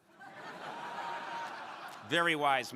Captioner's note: crowd laughing